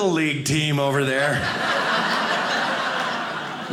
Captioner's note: audience laughing